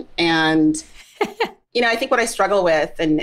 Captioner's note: laughs